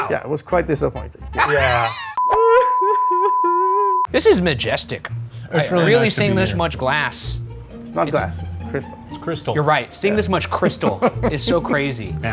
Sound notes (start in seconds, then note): 1.4 Napoleon weeps; 2.2 beeps